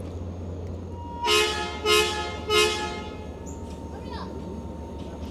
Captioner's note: train horn blows